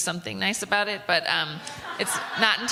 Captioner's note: laughter